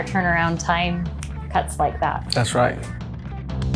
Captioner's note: fingers snapping